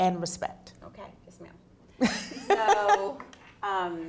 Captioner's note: laughs